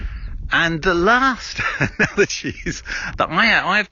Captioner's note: chuckling